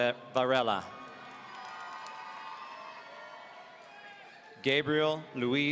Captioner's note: audience cheering